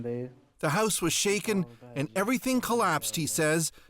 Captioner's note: speaking Foreign Language